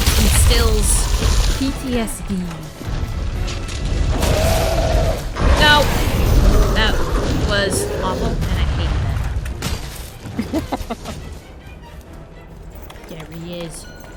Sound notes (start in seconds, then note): 10.3 laughs